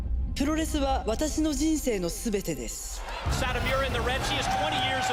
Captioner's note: japanese language